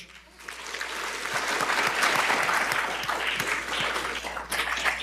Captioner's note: attendees applauding